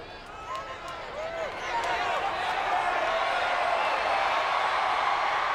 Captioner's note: audience cheers